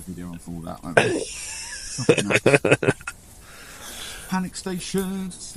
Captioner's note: laughter